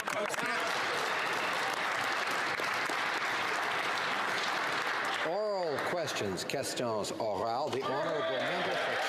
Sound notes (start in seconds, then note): 1.9 some Applause